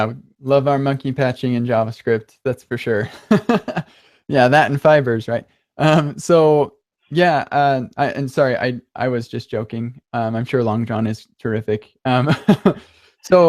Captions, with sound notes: - Yeah, we love our monkey patching in JavaScript. That's for sure. (laughs) Yeah, that and fibers, right? So yeah, and sorry, I was just joking. I'm sure longjohn is terrific. (laughs)